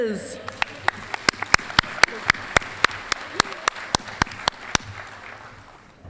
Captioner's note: applause